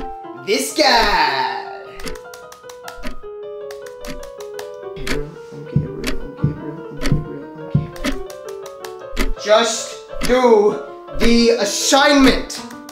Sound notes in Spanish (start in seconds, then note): 6.2 murmurando y repetido